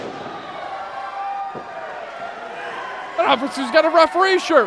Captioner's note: crowd clamoring